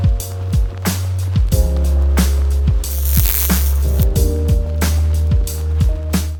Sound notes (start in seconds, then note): 2.9 graphic squeaking; 4.9 soft music